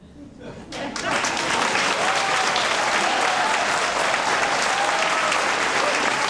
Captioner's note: audience cheering and applauding